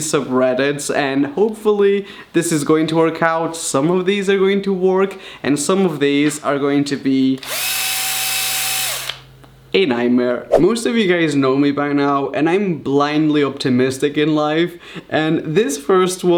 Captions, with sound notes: and hopefully this is going to work out, some of these are going to work and some of these are going to be... *Drill sounds* a nightmare. Most of you guys know me by now and I'm blindly optimistic in life, and this first one,